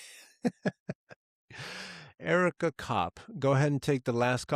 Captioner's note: laughing